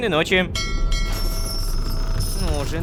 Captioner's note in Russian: Звук корабельного колокола